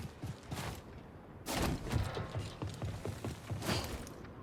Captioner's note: air whooshing